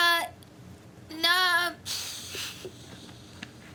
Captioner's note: stammers